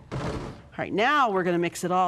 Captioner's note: thud